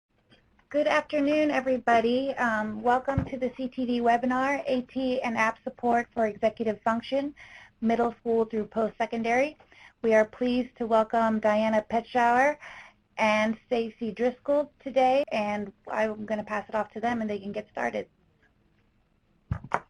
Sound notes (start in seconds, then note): 0.9 voiceover